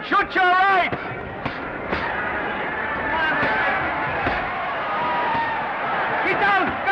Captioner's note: crowd cheering; punches thudding